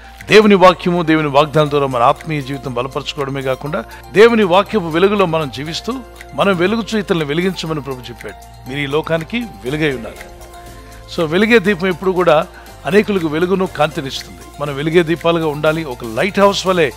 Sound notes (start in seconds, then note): none